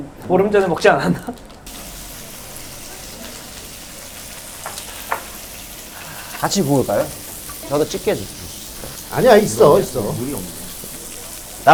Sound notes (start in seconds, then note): 1.3 Sizzling sounds / Jinju Platter: 78,000 won